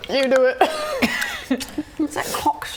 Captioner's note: laughing